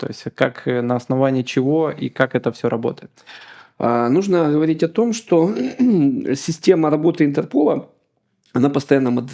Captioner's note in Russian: откашливается